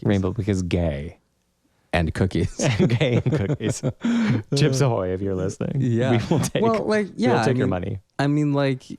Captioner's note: laugh